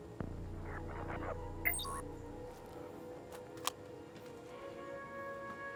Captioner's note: phone beeps; gentle music